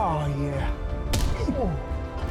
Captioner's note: punching; groaning